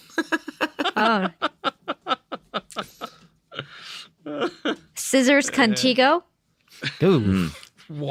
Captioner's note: laughing